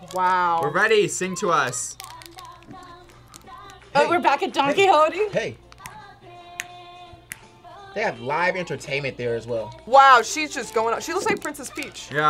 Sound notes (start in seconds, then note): 5.6 snaps fingers